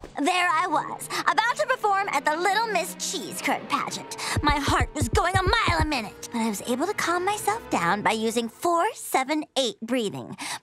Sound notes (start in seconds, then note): none